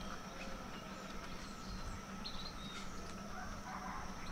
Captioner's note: birds chirping